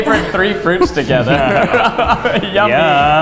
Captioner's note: laughs